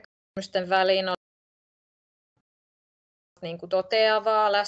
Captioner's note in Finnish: Ääniraita katkeaa